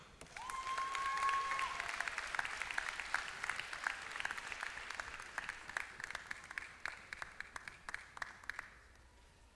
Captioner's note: applause